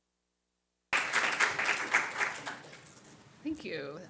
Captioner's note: audience applauds